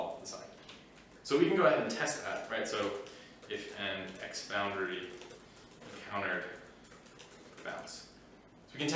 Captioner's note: typing